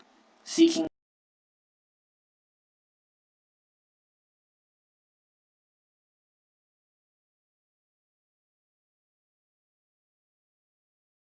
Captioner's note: audio missing